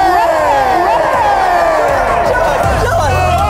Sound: audience cheering

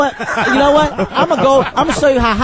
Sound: all laugh

